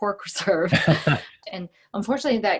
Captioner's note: laughing